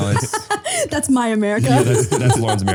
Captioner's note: laughing